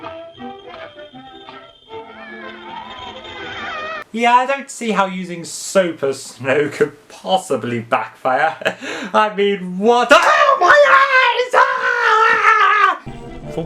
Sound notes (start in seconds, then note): 2.0 orpahans laughing; 10.3 screams in pain